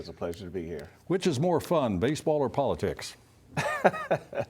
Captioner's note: laughter